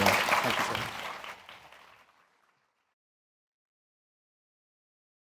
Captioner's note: audience clapping